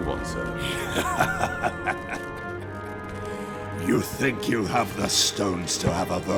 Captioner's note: laughing